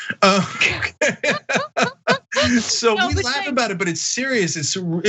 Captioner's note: laugh